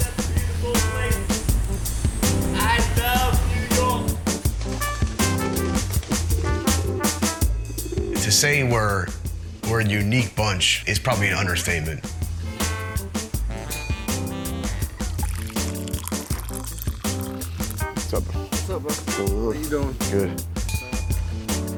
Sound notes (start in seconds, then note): 5.2 pigeons cooing; 15.1 coffee gurgling